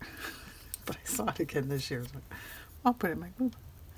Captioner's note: laughs